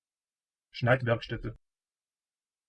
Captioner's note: fast Pronunciation